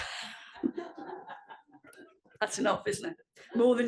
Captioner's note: laugh